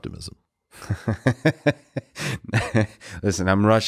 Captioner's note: Lex chuckling